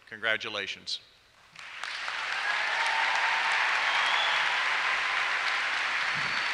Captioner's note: applause and cheers